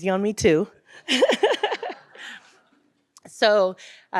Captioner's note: laughs; audience laughs